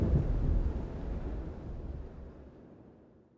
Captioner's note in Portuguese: Sons de chuva evanescem aos poucos